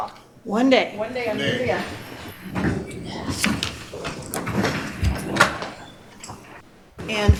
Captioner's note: speaking in spanish